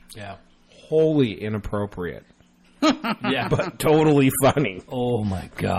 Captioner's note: laughs